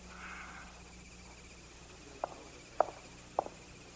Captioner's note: wheezing